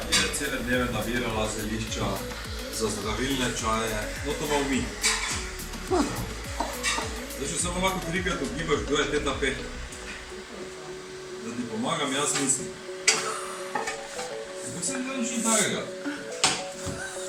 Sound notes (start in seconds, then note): 13.1 laughing